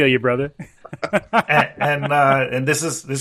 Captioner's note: group laughing